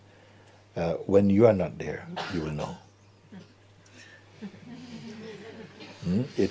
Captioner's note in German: Lachen